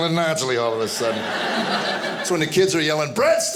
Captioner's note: audience laughing